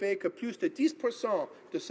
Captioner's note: speaking in French